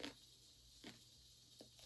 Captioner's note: bgm: 엄마가 압력밥솥으로 밥짓는 소리